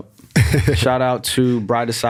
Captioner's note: laughs